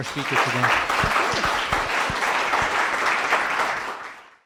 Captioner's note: applause